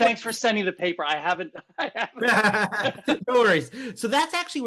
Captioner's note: laughing